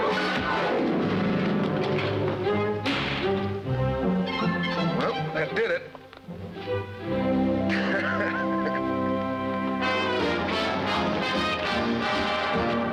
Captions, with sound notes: [thuds] [door slams] Well, that did it. [laughing] [instrumental music]